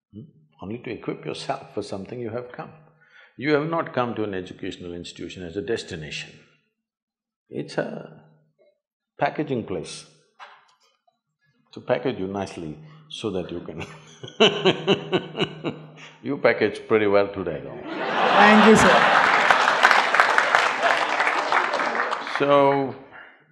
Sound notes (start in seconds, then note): 13.8 laughs; 17.8 laughter/Applause